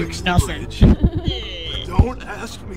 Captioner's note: laughter